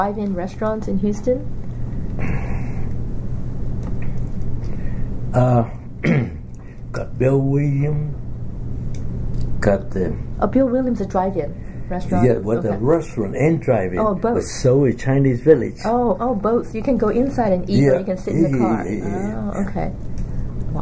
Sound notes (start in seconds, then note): 5.4 coughs